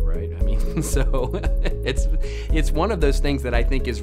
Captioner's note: laughs